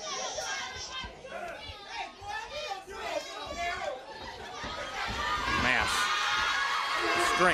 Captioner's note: crowd chatter